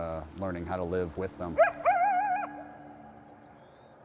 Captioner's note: coyote howls